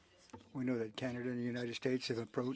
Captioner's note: speaking French